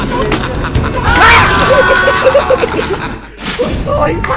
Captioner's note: unholy screaming